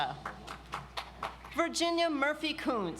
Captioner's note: audience applauds